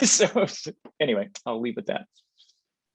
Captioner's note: laughing